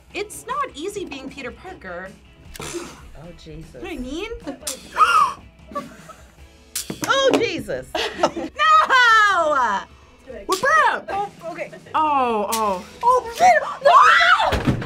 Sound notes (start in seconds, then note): 5.0 gasps; 5.6 laughs; 5.6 both laugh; 13.0 screams